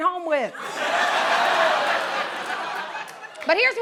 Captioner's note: laughter and groaning